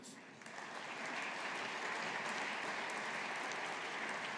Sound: audience applauding

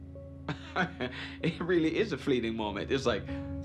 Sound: laughs

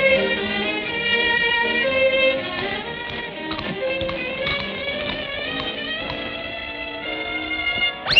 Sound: chewing loudly

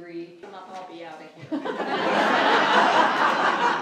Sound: laughter

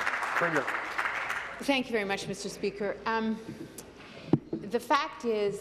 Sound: voice trailing off

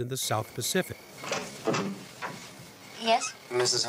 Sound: crickets chirruping

